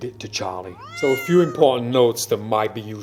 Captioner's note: cat meowing